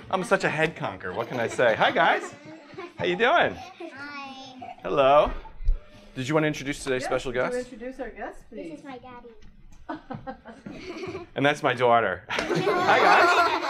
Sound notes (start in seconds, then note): 4.3 voiceover; 12.3 laughter